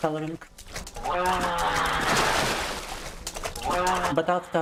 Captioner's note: screaming